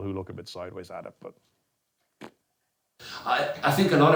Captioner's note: blows raspberries